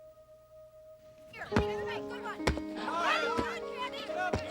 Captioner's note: clamoring